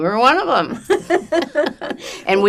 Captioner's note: laughing